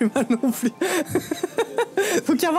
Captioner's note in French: Rires